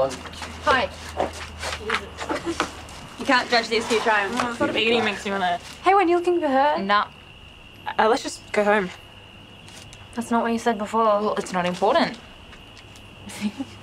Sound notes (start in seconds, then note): 2.2 Heidi and Saffron laugh